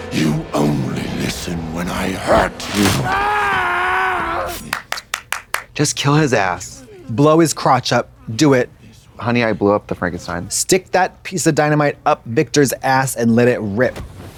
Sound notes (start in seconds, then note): 2.2 Victor screaming